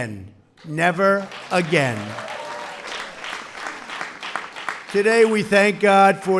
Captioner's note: applause